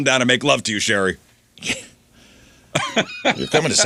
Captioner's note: laughing